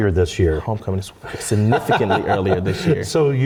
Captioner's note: laugh